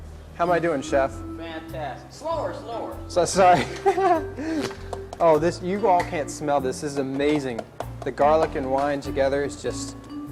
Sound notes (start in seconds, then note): 3.3 laughs